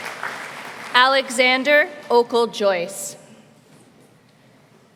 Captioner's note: applause